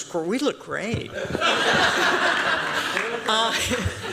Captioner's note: laughter